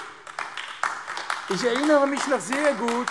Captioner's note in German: Beifall AfD